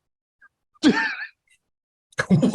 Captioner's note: laughter